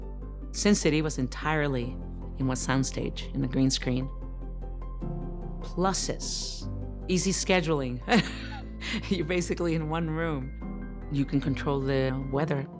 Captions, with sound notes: "Sin City" was entirely on a sound stage in the green screen. Pluses, easy scheduling. [laughing] You're basically in one room. You can control the weather.